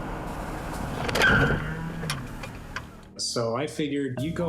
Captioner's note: tires screeching